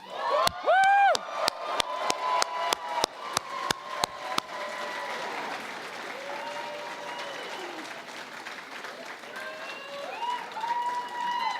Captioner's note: cheering and Applause